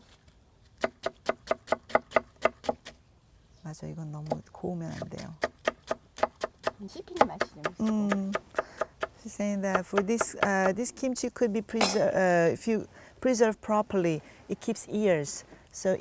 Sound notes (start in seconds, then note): 0.8 chopping sounds